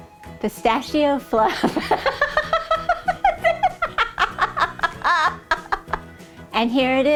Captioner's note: laughing